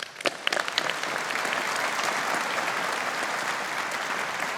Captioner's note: audience applauding